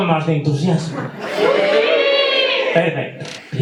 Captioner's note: audience shouts